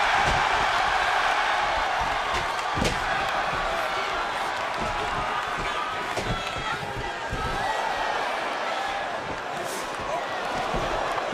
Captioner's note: crowd cheering